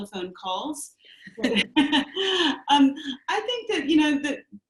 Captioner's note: laughing